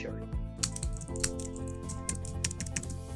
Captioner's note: keyboard clicking; calm reflective music